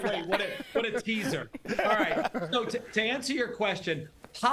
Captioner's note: laughter